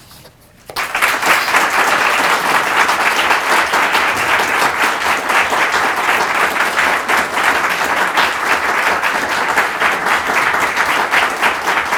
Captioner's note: applause